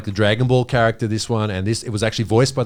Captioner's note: all laughing